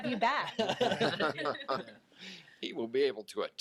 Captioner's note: all laugh